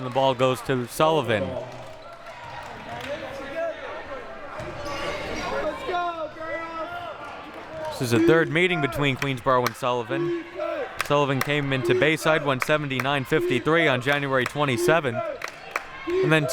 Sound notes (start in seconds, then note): 3.0 audience chattering and yelling